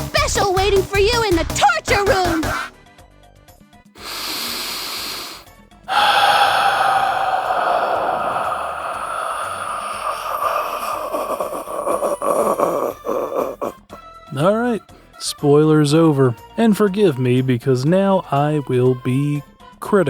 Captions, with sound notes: [inhales] [a very very long sigh] Alright, spoilers over. And forgive me because now I will be critical.